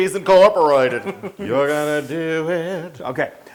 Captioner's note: laugh